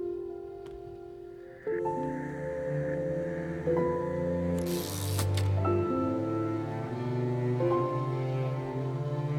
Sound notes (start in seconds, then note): 4.5 typewriter whirring